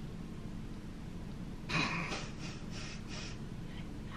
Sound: giggles

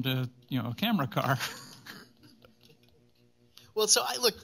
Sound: chuckles

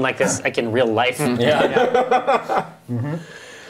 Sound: laughing

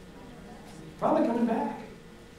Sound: audience mutters

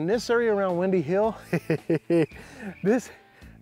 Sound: chuckles

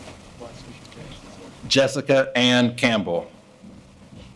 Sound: speaking faintly

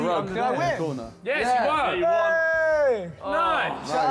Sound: group chatters

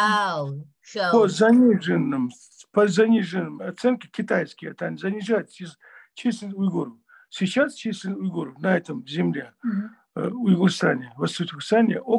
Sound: in Russian

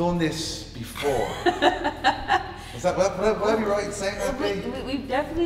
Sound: laugh

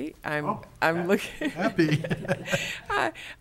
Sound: laughing

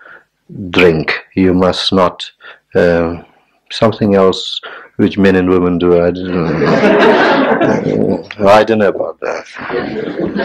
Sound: general laughter

